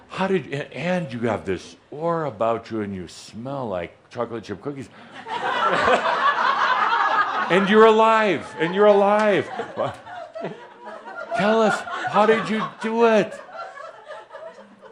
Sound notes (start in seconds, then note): 5.5 laughter